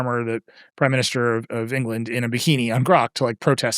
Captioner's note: none